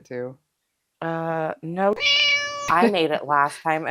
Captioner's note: meow